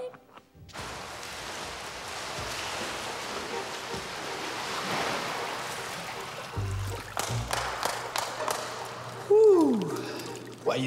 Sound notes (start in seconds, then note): 1.3 water splashing; 7.0 Billy clapping